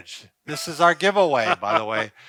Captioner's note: chuckles